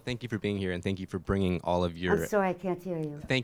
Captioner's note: voiceover